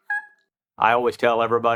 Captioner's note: turkey call